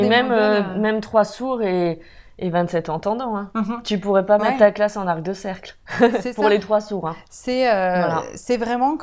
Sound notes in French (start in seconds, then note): 6.0 rire